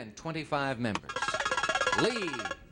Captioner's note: buzzer beeps